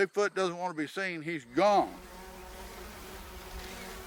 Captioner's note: insects buzzing; birds chirping